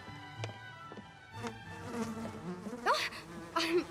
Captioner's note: buzzing